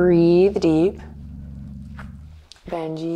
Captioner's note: Benji growling quietly